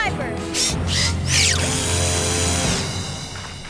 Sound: drill running

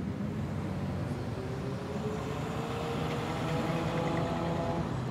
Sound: cars approach and pass

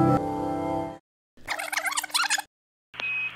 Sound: electronic instrumental music; tape rewinding

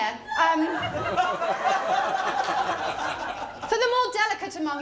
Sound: laughter

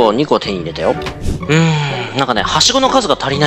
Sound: surprised reax

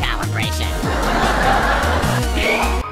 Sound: laughtrack

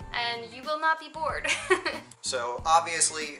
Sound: laughs

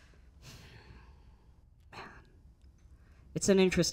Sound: Jes sighing

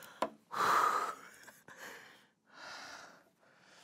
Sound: sigh

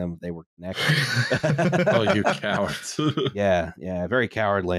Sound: laughter

